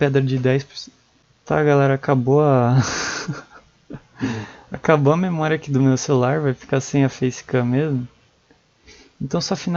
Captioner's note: laugh